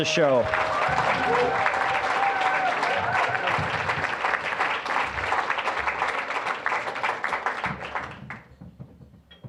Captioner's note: applause, cheering